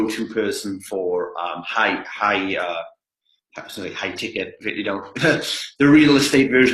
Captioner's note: laughs